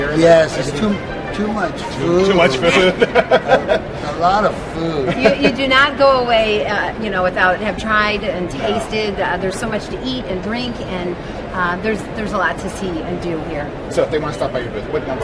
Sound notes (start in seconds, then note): 2.6 laughs